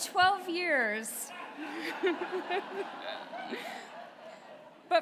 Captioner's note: laughter